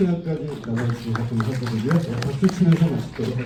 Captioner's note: clapping